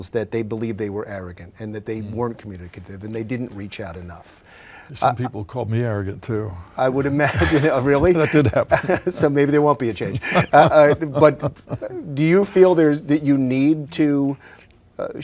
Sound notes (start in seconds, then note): 7.2 laughs